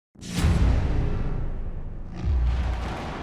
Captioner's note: fireworks